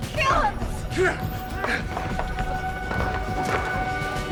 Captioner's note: grunting